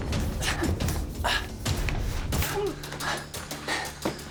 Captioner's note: dramatic music; both grunting